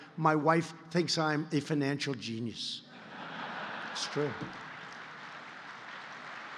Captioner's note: laughter and applause